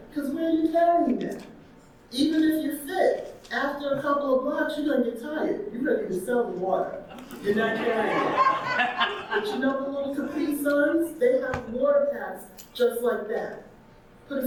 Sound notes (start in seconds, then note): 7.1 audience laughing